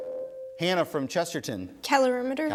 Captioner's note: ding